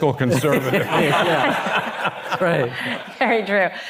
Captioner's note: all laughing